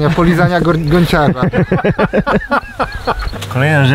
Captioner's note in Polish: śmiechy